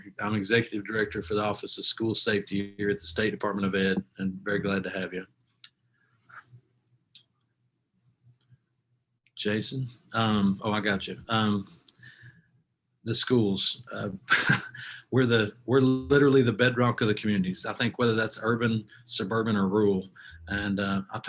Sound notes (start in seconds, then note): 14.3 laughs